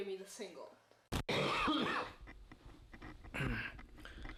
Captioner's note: coughing